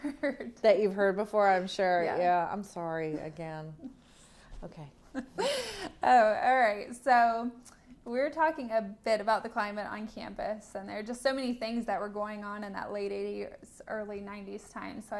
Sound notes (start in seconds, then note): 5.1 laughter